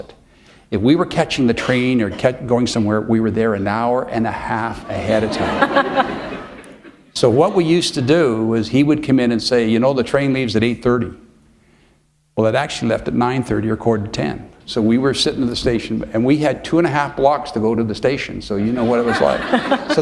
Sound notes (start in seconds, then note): 4.9 laughter; 18.7 laughter